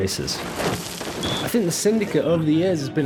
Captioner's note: bike whooshing